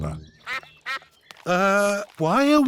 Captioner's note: sucks quacking